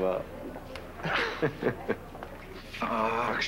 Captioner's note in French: Petit rire